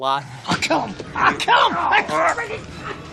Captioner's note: grunting